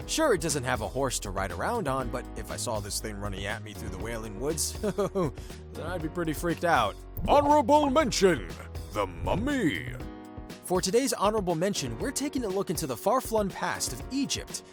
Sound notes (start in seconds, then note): 4.8 laughs nervously; 7.5 deep Voiceover